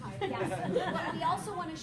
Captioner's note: laughter